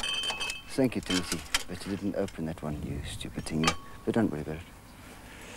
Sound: breathe

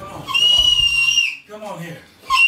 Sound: Renee screams

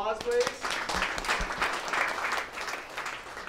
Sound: applause

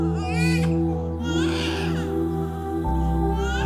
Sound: crying

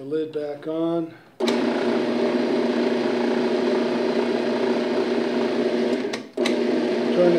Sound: robot coupe whirring

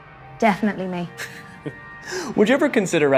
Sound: laughs

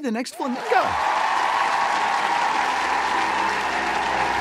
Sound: applause

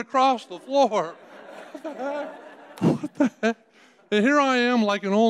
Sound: audience laughing

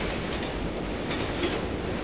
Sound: train rumbling

